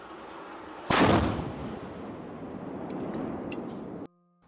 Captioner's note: loud explosion